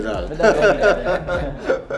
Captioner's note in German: lachen